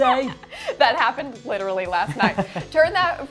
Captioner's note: chuckles